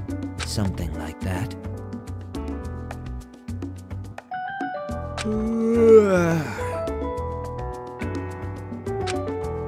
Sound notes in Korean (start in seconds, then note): 8.6 하암